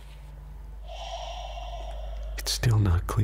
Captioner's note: breathes heavily